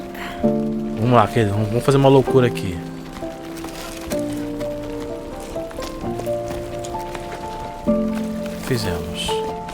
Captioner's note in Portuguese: limpando a garganta